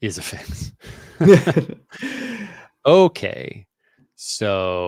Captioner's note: chuckling